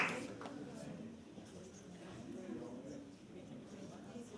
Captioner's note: applause